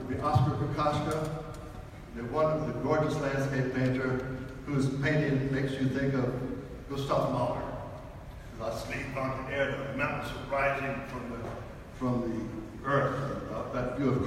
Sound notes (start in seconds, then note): 8.7 speaks foreign language